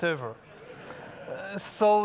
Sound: audience laughs

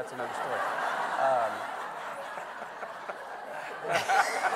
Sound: everyone laughing

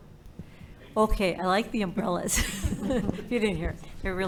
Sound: chuckles

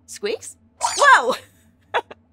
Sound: squeaks squeaks

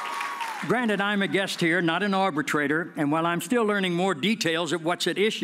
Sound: cheers and applause

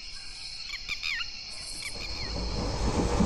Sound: red wattled lapwing call

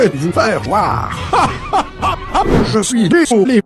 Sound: christmas laugh

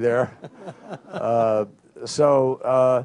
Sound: laughter

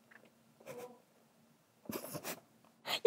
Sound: suppressing laughter

